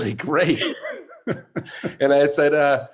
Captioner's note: laughs